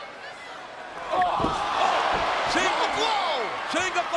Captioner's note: crowd clamoring